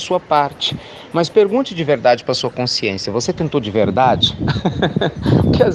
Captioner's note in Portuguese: Risos